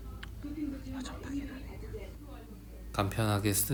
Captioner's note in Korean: 속닥속닥